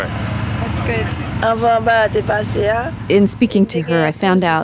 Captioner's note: in Creole